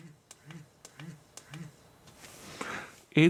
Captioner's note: buzzing sound